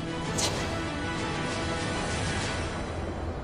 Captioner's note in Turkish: Fısıldayarak